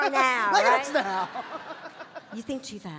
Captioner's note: audience laughing